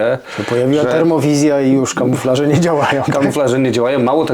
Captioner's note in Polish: śmiech